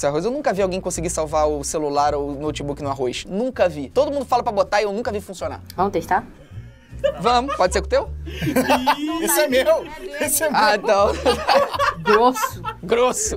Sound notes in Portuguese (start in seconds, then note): 6.5 risadas